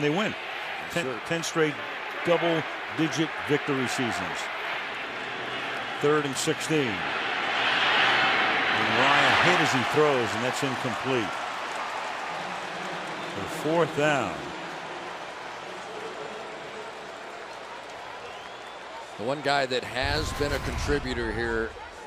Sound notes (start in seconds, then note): 13.1 pa announcement